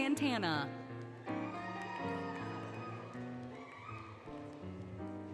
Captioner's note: applause, Cheering, Music